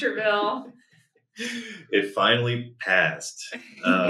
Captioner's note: laughs